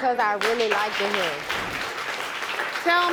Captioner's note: audience applauding